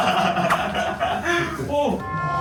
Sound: laughter

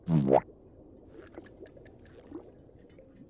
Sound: ticking

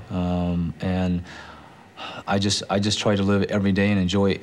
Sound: sighs

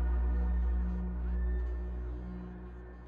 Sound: distant siren blares

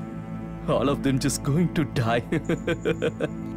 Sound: giggling

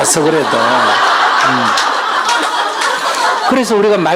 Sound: audience Laughter

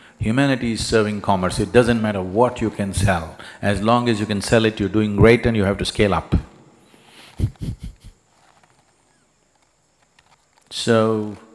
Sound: laughs

